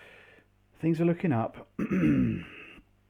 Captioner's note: clears throat